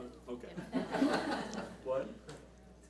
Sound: audience laughs

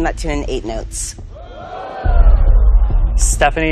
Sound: audience's impressed murmurs

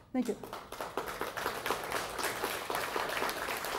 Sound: applause

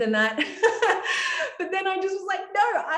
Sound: laughing

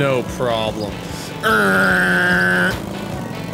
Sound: revving sound

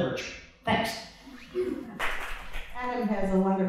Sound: clapping

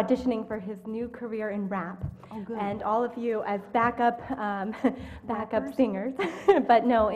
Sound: laugh

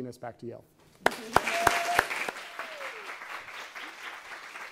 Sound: audience applauding

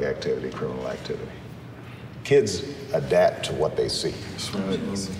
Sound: men agreeing

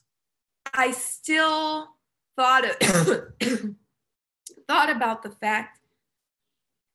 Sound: coughing

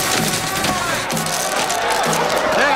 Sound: audience shouting

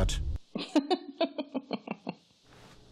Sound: laughter

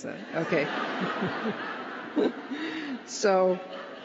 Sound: laughter

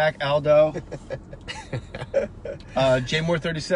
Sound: chuckling

